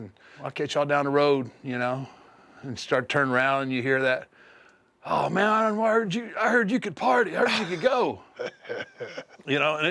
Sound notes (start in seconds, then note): 7.4 laugh